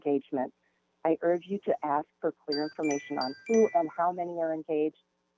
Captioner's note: chime